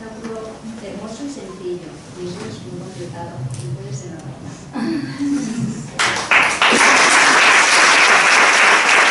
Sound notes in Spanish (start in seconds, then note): 5.9 Aplausos